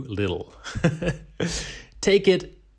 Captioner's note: laughing